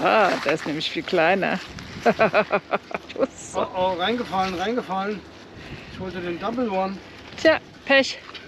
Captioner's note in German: gelächter